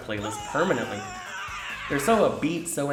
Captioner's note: aaahhhhhh!